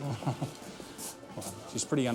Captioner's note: chuckles